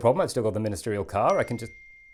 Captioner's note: ping